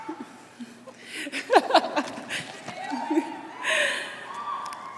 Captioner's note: laughs